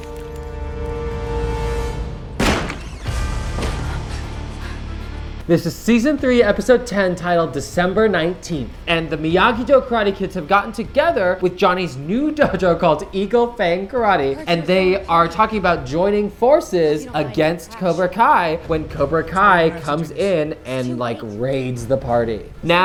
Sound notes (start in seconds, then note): 0.1 tense music; 2.4 door bangs